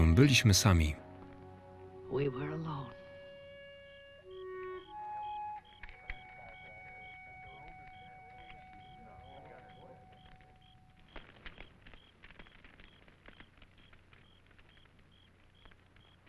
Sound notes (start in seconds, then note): 7.0 crowd chattering; 11.0 fire crackling